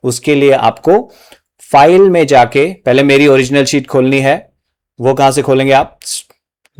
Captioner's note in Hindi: नाक से की जाने वाली आवाज़